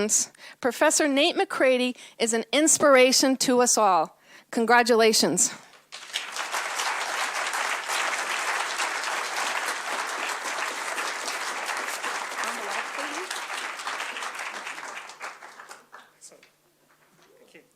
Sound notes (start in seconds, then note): 8.4 applause; 11.8 audience chatter